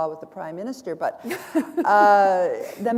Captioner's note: chuckle